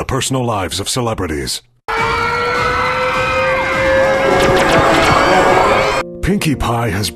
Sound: sounds of the city being destroyed, lasers firing

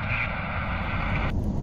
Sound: static

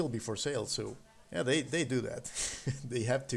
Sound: chuckling

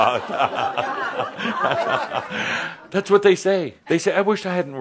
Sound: Adamus and audience chuckles

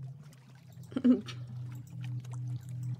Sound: laughs

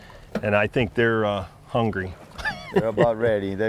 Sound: chuckles

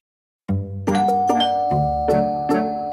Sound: door bell ringing

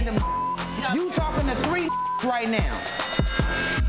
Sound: beep

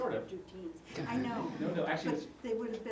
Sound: laugh

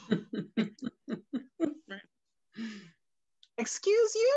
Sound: laughs

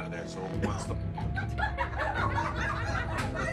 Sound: coughing; laughing

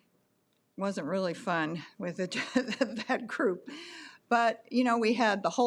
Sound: laughs

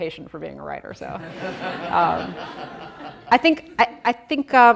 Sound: audience laughing

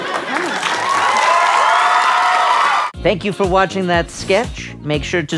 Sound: screams

